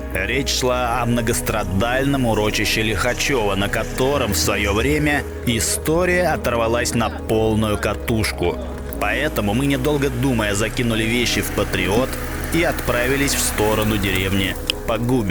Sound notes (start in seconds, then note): 11.4 car